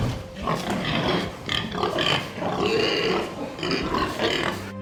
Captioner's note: pigs grunt